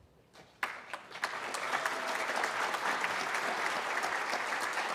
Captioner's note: applause